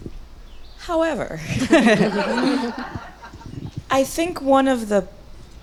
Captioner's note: audience laughs